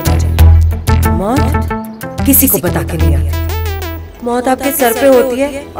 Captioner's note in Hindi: none